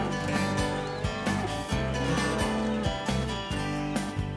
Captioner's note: cattle moo